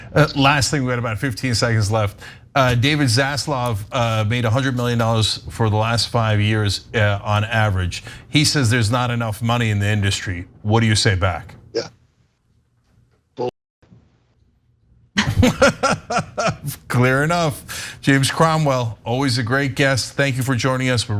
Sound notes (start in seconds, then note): 15.2 laugh